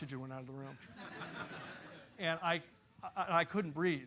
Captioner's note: laugh